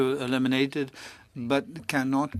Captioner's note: speaking French